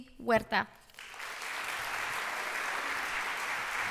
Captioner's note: applauding